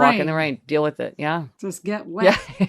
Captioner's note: laughing